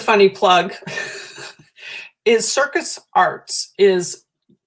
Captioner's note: laughter